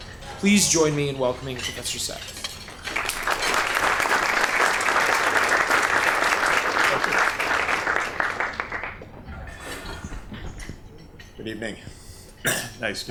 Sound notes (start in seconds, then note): 2.7 applause